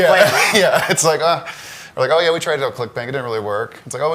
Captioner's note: laughs